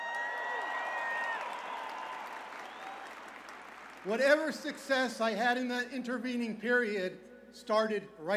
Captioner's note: cheers and applause